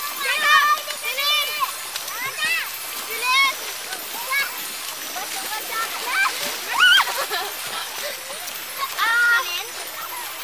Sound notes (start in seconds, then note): 6.6 Belen shrieks; 6.8 Liway laughs